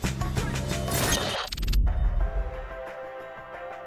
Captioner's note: interference noises